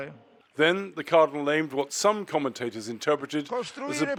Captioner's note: voice-over